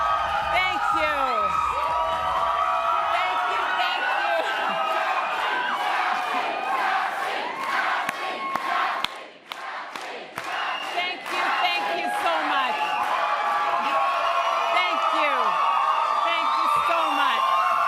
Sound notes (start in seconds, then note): 0.0 applause and cheering; 8.1 cheering; 16.3 applause and cheering